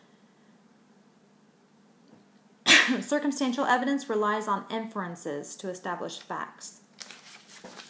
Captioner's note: sneeze